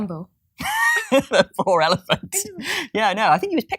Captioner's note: laughs